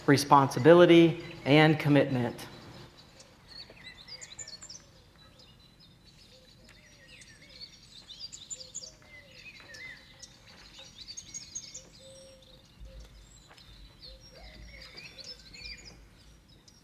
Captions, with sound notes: responsibility, and commitment. (birds chirping)